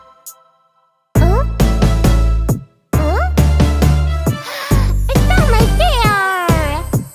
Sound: gasps

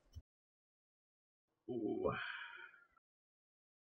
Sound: uncomfortable instigator noises

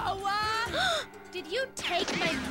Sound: gasps

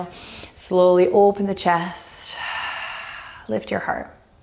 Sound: exhaling strongly

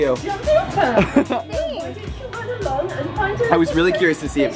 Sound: laughs

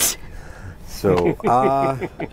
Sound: all laughing

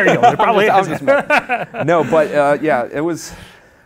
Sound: laughs

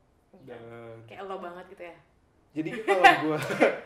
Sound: laughter

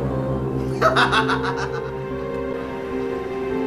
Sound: laughs

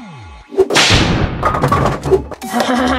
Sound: whip cracking; rolling and thudding; Frankenstein laughing

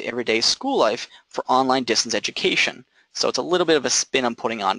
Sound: none

